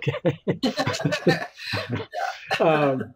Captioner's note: laughs